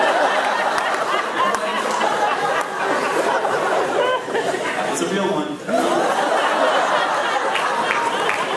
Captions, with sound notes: [laughs] That's a real one. [laughs]